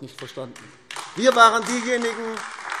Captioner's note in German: Beifall AfD